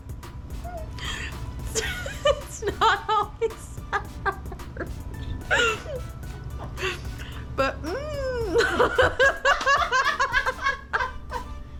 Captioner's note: laughs; laughs; laughs hysterically